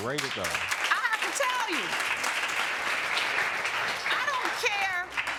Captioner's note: audience applauding